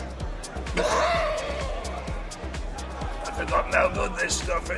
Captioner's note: Ragtooth coughs